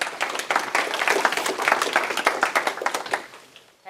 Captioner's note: applause